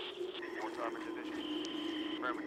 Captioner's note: wind howling; radio Voice